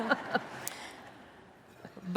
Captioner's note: laughter